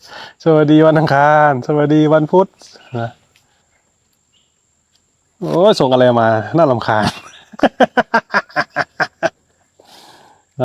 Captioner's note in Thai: เสียงหัวเราะ